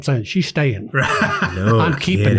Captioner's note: laughs